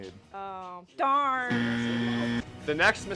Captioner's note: buzzer